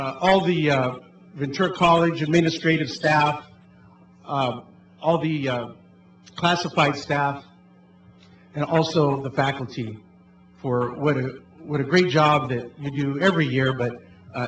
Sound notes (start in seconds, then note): none